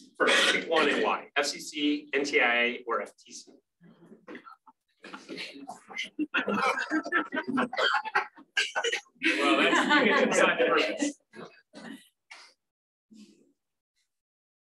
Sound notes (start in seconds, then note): 7.0 laughter